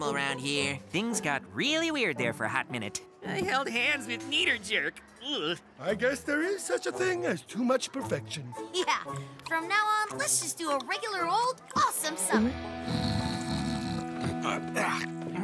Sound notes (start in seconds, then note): 12.8 snores; 12.8 mutters